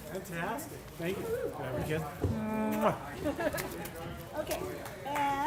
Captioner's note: laugh